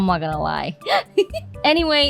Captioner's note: giggle